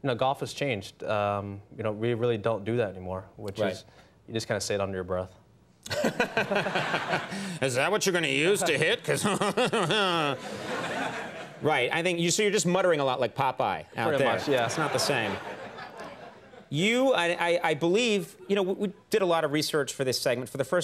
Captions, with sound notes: You know, golf has changed. You know, we really don't do that anymore. Which is, you just kind of say it under your breath. (Conan chuckles) (audience chuckles) Is that what you're gonna use to hit 'cause (laughs) (audience chuckles) Right. I think, so you're just muttering a lot like Popeye out there. Pretty much. Yeah, it's not the same. You, I believe, you know, we did a lot of research for this segment.